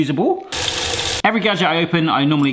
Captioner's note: water spraying